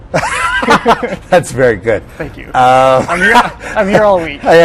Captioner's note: laughs